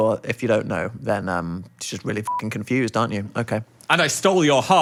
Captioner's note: beep